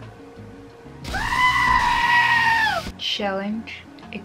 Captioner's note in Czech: křik kozy